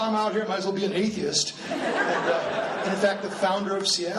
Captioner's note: laughing